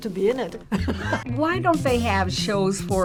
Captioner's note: laughs